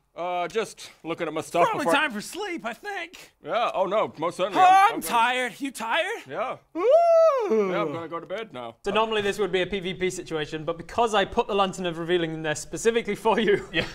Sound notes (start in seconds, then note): 6.7 yawn